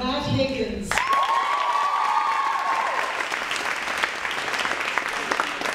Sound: cheering and applauding

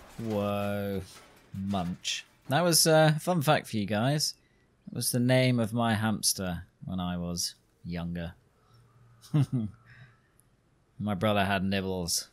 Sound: laughs

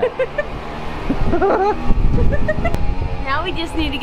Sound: laughing

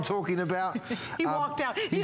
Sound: laughter

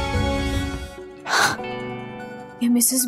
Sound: Sakhi gasps

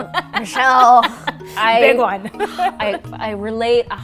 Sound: laughs

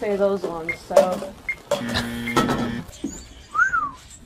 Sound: buzzer; whistles

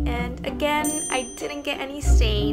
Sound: check dings

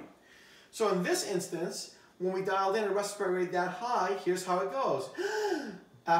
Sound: inhales

